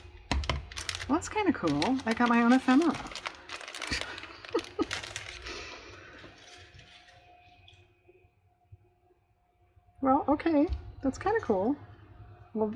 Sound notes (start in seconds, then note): 8.1 laughs